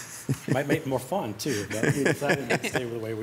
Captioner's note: laughs